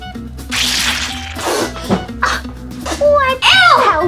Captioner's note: spitting sounds